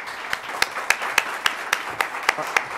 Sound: applause

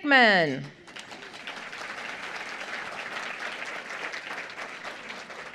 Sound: applause

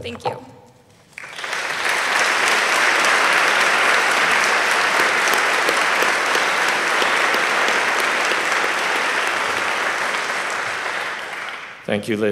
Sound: applause

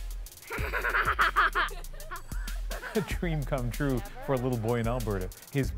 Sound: laughter

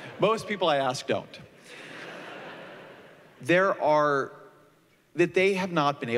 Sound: laughter

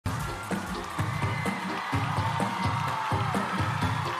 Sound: applause

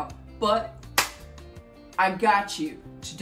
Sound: clap

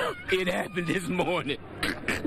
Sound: screaming from phone

